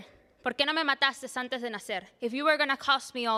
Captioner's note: speaking Spanish